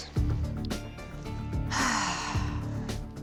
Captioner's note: sighs